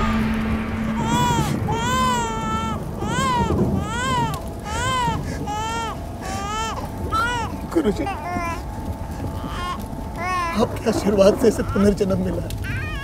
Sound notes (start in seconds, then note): 0.8 crying; 0.8 thundering; 9.1 crying